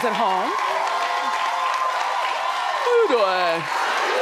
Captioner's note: audience applauds; audience cheers